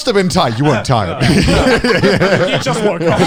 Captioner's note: all laughing